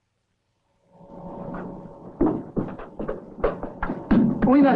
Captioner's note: machinery humming; both speaking in Russian